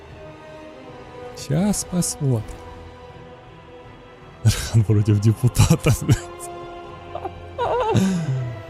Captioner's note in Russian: смех